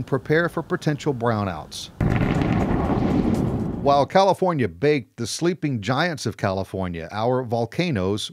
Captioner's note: volcano Sound